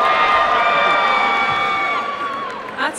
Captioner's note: applause and cheering